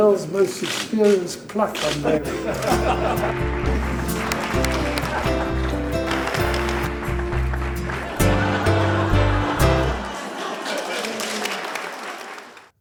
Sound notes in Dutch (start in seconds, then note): 2.1 publiek applaudisseert; 2.5 veel gelach